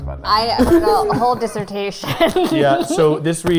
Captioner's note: laughing